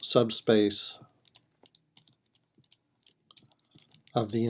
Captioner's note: typing